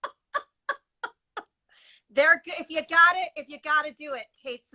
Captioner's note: laughs